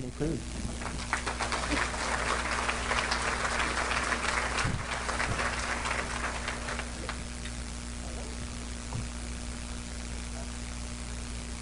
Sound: applause

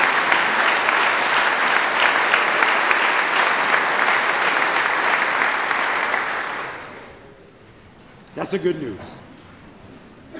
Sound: applause

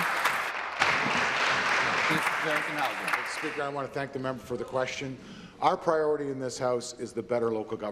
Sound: applause

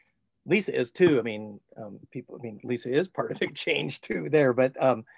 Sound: chuckling

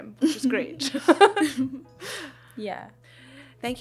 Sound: laughs

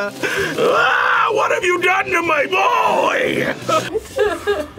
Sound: screams; laughs

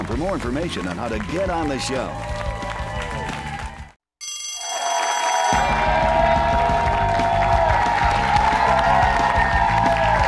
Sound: cheers and applause

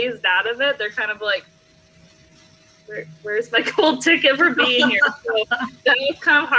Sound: laughs

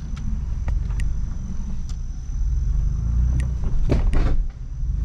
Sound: rumbling sound

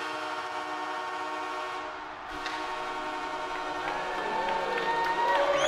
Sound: crowd cheering; horn blowing; people cheering

